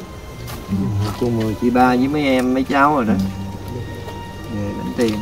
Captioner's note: saying chants